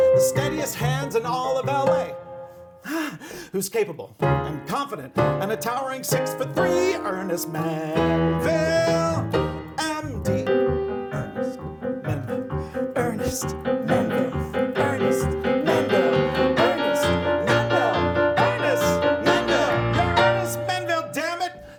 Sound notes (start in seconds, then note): 2.6 exhaling; 10.7 lively music continues